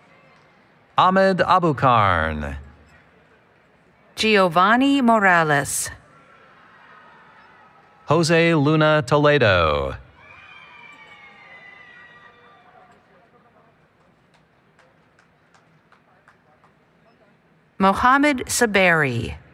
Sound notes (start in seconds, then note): 10.1 cheering